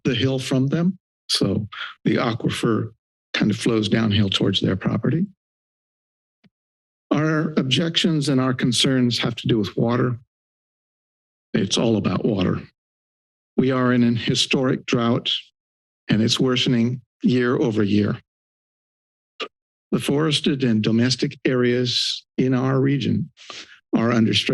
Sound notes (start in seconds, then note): 18.3 silence